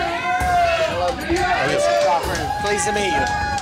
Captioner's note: cheering